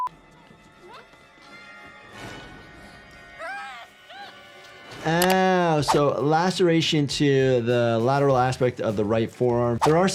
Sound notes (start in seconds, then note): 0.2 dramatic music; 3.4 Tatum wailing